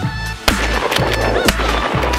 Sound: gunshots

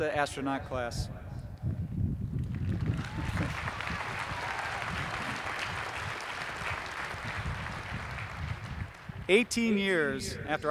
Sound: applause

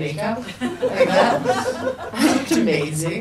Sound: people laugh

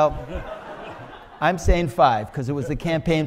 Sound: audience laughs

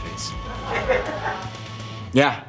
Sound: laughing

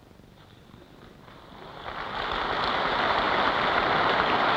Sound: applause

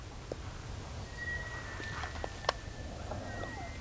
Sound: elk bugling

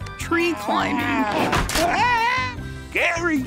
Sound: screaming

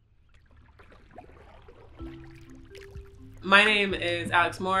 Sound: gentle music; water sloshing

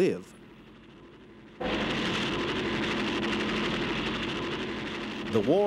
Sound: helicopters landing

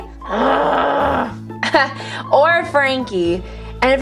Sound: laughs

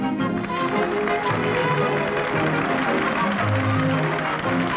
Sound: audience applauds

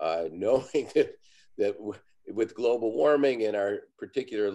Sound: laughs

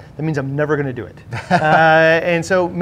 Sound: laughs

